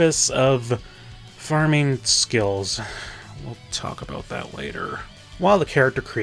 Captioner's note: sigh